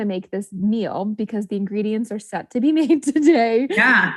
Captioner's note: laughs